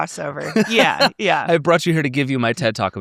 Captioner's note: laughs